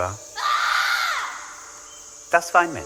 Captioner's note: scream